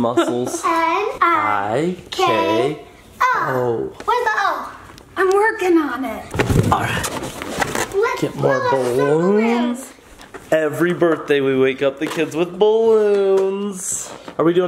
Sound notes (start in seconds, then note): 6.4 balloons squeak